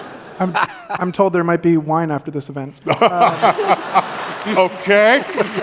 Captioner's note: laughter